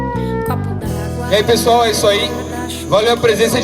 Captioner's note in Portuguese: Pelo microfone